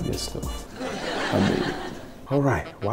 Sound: audience laughs

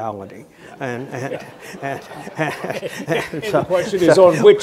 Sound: audience laughing

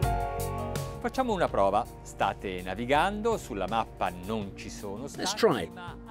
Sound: speaking in a foreign language

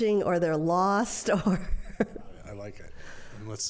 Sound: laughter

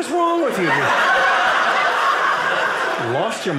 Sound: audience laughing

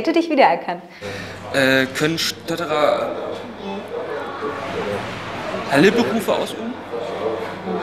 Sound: stuttering

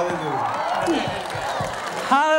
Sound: crowd cheering

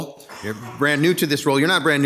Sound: attendee coughing

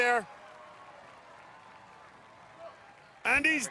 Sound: cheers and applause

